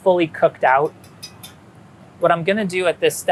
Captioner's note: spatula clinking